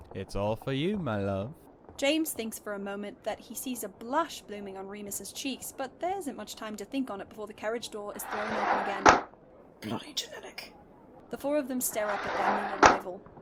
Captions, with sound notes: “It’s all for you, my love.” James thinks, for a moment, that he sees blush blooming on Remus’s cheeks, but there isn’t much time to think on it before the carriage door is thrown open again. [door slides open] “Bloody genetic.” The four of them stare up at their new arrival. [Carriage door slides closed]